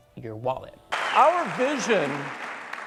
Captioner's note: clapping